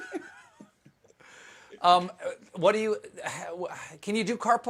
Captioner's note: laughter